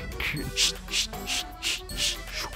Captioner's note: skating mouth sounds; fast skating mouth sounds; laughs; skating mouth sounds